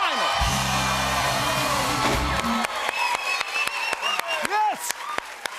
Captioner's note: cheers and applause